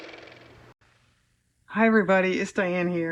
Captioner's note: car motor